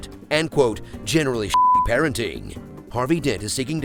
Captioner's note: beep